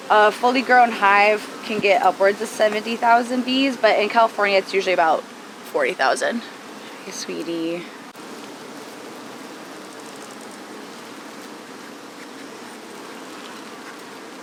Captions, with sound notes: A fully grown hive can get upwards of 70,000 bees. But in California, it's usually about 40,000. Hey sweetie. (bees buzzing)